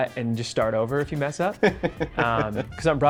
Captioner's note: laughs